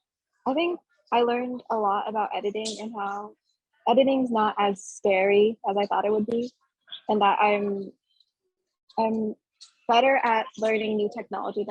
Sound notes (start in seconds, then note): none